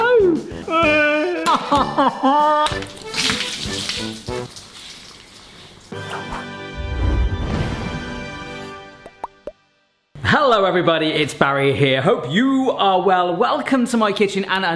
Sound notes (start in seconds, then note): 0.0 sobbing dramatically; 2.6 splattering wetly